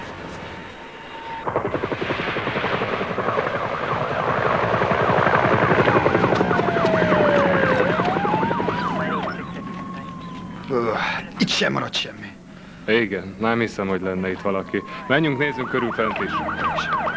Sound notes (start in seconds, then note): 1.5 helicopter overhead; 6.6 sirens wailing